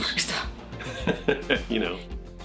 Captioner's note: laughs